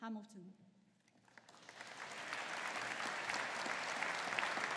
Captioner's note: audience applauding